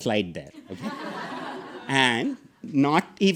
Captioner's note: audience laughing